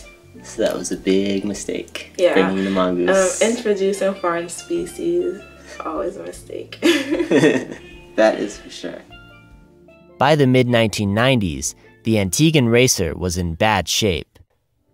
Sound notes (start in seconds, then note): 6.8 laughter